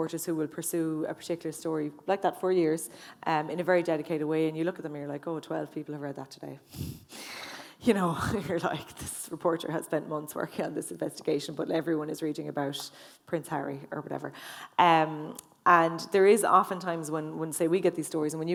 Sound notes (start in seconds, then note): 6.7 sighs